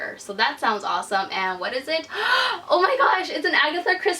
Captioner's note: gasp